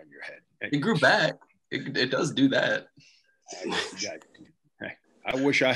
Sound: laughs

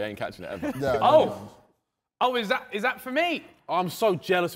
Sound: men laughing

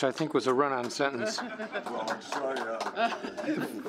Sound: applause

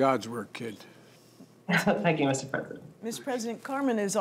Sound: laughs

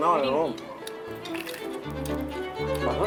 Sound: chewing sound

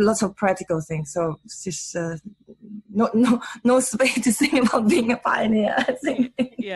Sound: laughs

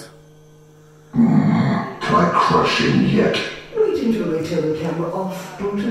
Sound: irritated growl

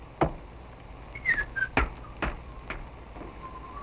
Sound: whistling

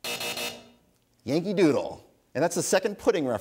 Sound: buzzer sounds

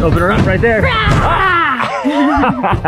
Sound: laughs; shouts

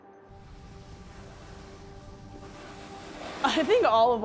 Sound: sounds of skis against snow

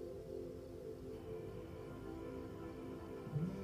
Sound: crickets chirping; phone vibrating

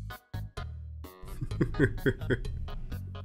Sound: chuckle

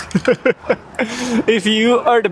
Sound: laughs

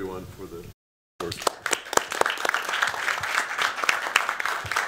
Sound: applause

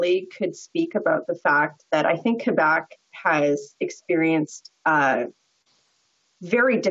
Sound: voix de l'interprète

